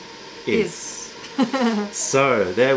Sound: laughter

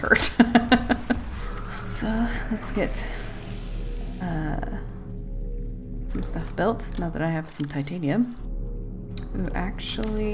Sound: laughs

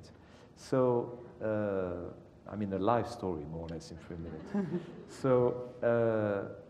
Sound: laugh

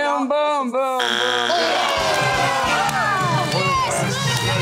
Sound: cheering

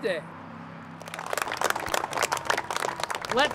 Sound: applause

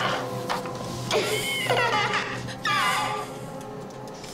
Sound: creepy giggling

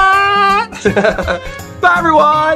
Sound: laughing

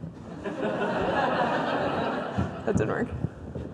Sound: audience laughs

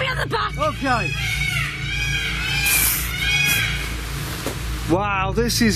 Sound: peacocks squawking

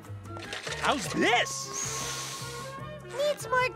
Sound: sniffing

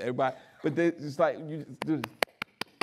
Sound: clapping

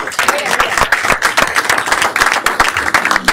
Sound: applause

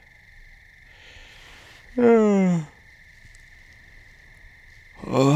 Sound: yawning

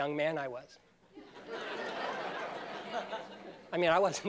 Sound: laughter

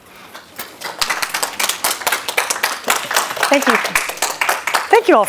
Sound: applause

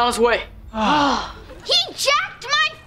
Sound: sighing

